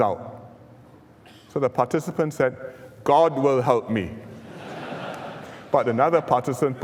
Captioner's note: laughter